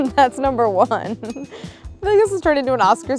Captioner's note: Claire chuckles